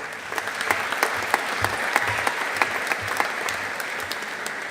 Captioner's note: audience applauding